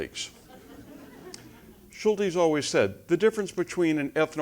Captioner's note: laugh